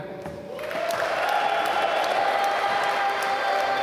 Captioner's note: applause